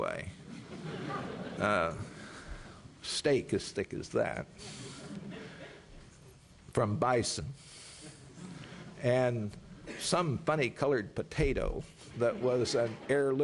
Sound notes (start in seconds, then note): 4.9 laughter; 7.5 laughter